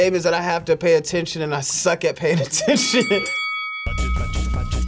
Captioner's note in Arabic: قرع الجرس; موسيقى الغرير المتكررة